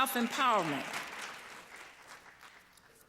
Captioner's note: applause